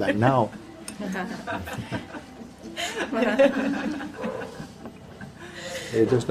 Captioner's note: γέλια